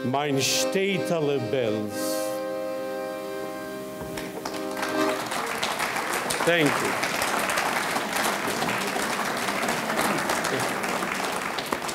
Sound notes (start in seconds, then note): 0.2 speaking in foreign language; 4.7 audience clapping